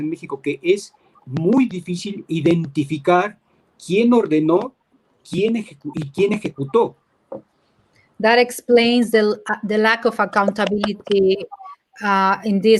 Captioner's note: speaking in Spanish